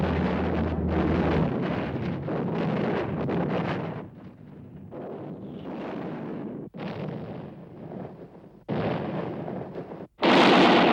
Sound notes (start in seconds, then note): 0.0 explosions; 10.3 gunfire